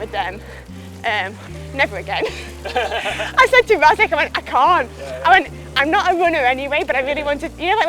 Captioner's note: laughs